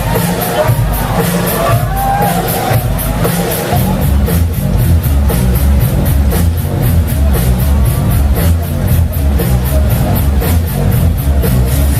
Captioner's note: clap